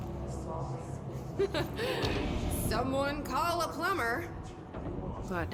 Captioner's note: laughs